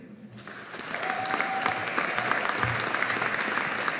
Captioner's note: audience applauding